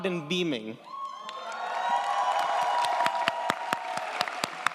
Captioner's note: audience applauds & cheers